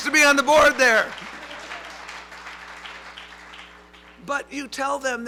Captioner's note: applause